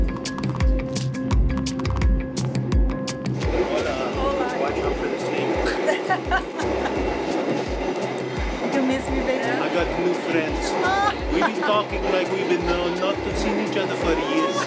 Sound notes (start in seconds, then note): 3.9 in Portuguese; 5.6 laughs